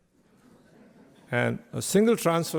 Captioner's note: faint laughter from audience